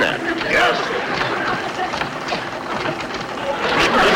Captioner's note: apparatus Creaking; audience Laughing